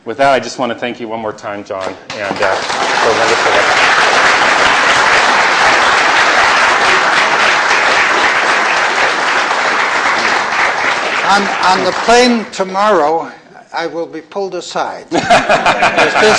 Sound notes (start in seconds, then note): 1.9 applause; 15.1 laughter